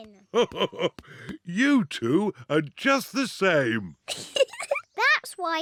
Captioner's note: laughs; giggling